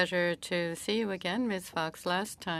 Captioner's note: speaking French